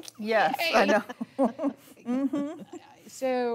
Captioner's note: laughing